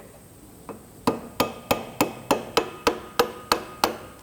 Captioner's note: metal hammering